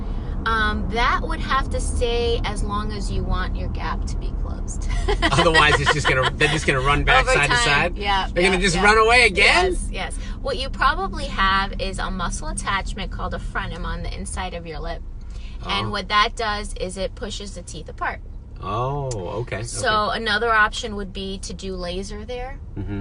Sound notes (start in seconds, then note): 4.9 laughs